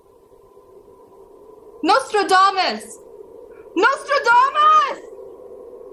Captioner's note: shouting into the wind